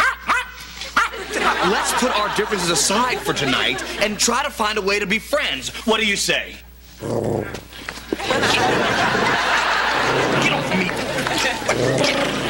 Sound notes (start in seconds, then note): 0.0 arf arf arf; 8.2 growling